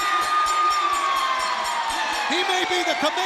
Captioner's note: bell ringing